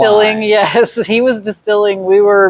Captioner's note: laughs